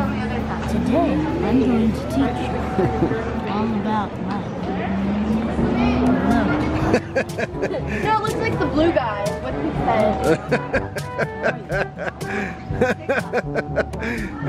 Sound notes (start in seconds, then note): 6.9 laughs; 10.2 laughs